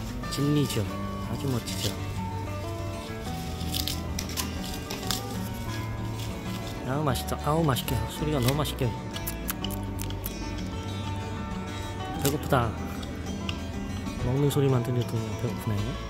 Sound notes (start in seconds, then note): 4.6 Lebao eating bamboo